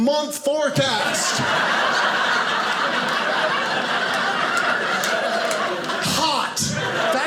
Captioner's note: audience laughing